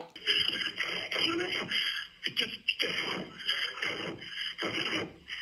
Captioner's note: record mumbling and panting